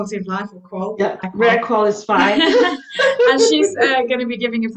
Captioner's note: laughing